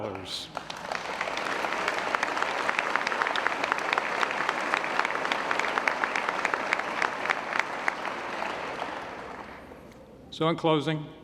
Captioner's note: applause